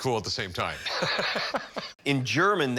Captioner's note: laughs